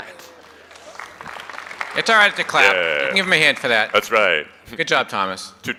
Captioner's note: applause